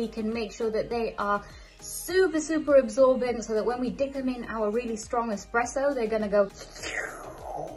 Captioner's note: slurp